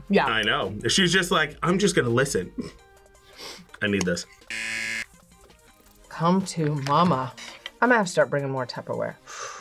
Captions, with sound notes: - Yeah. - I know. She's just like, "I'm just gonna listen." I need this. (buzzer) - Come to Mama. I'm gonna have to start bringing more tupperware.